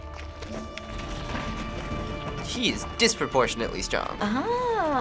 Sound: boulder scrapes ground

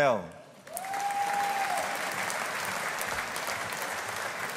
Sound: audience applauding

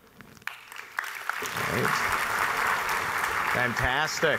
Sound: audience applauding

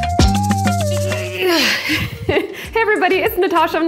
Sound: upbeat music; grunts

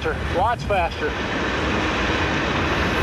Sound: car Engine reaves up

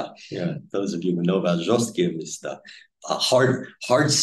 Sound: speaking Russian

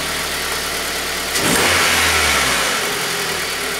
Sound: engine revs

